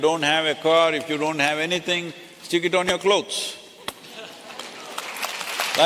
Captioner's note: applause